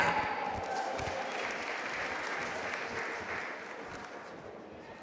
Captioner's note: audience applauding